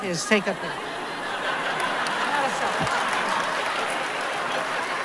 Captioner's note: laughter